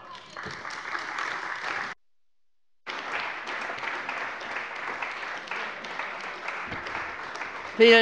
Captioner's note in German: Beifall bei der CDU